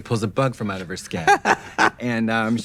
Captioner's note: Trixie laughing